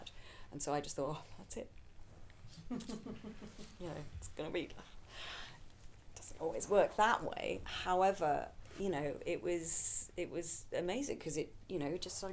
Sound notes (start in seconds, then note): 3.0 audience laughing